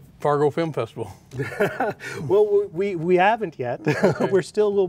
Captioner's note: laughs